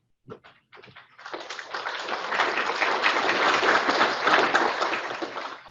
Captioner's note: audience applauding